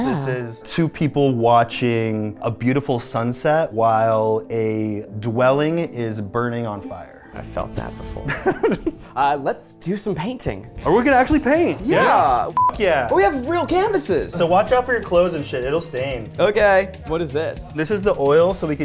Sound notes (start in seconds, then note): 8.2 laughing